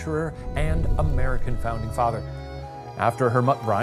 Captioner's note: screen whooshing